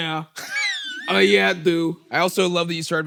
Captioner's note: laughs